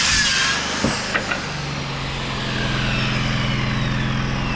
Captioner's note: motor whirring